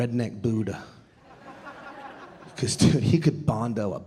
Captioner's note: audience laughing